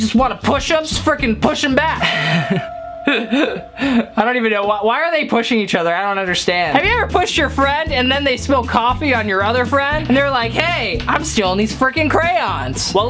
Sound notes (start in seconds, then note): 2.0 laughs